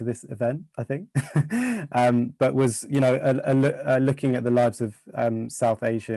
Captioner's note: laughs